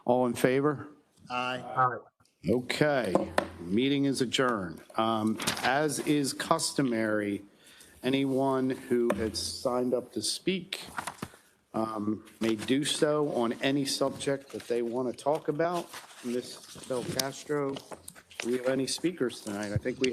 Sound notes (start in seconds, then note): 3.1 gavel thuds